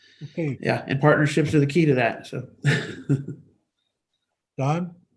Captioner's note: chuckles